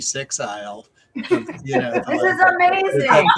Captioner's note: laughter